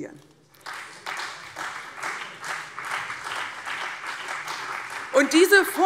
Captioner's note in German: Beifall CDU und BÜNDNIS 90/DIE GRÜNEN